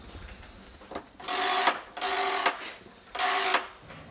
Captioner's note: rattling noises